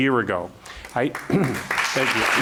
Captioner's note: applause